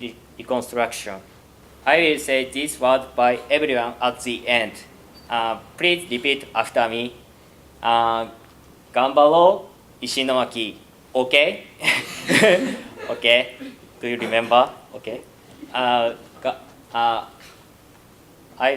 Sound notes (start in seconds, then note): 11.8 laughter; 15.6 quiet laughter